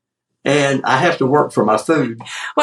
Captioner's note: laugh